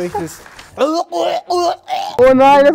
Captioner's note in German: Würgelaute